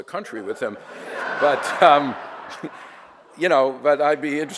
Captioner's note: audience laughter